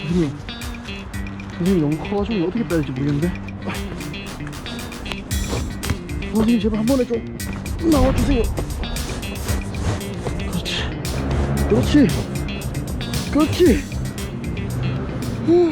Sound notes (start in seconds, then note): 3.5 struggling